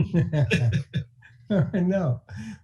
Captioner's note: laughing